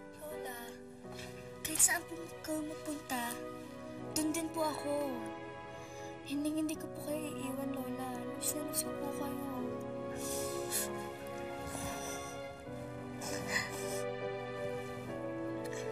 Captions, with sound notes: Grandma, no matter where you go, I'll be by your side. I won't leave you, Grandma. I miss you very much. [crying]